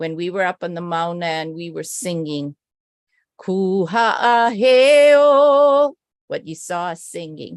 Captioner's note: non-english speech